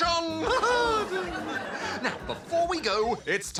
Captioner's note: laughs